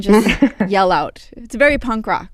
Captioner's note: laughter